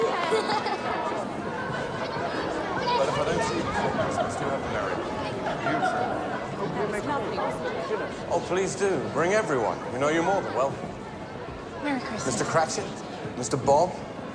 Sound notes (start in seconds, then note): 3.9 children clamoring